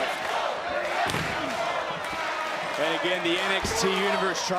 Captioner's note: crowd chants "black & gold"